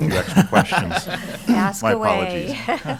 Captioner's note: laughter